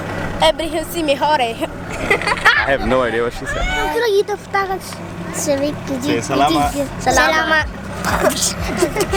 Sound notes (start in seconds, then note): 0.2 foreign language; 1.8 laughs; 3.8 foreign language